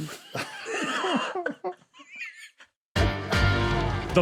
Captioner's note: wheeze